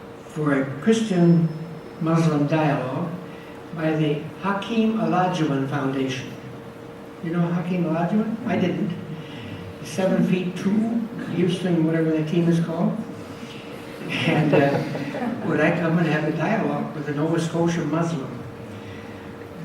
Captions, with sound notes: for a Christian-Muslim dialog by the Hakeem Olajuwan Foundation. You know Hakeem Olajuwan? I didn't. He's seven feet two, Houston whatever that team is called. [audience laughs] And would I come and have a dialog with a Nova Scotia Muslim?